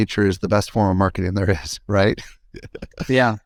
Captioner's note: laughs